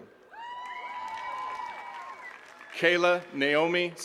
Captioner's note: attendees cheering and clapping